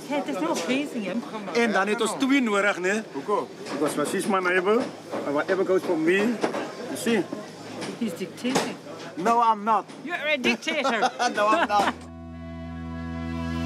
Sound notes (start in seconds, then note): 0.0 speaks in Afrikaans; 1.6 speaks Afrikaans; 10.5 laughing